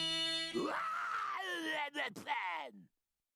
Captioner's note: yelling